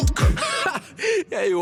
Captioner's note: laughs